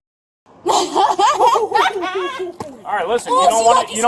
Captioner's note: laughter